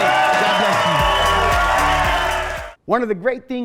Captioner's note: audience cheering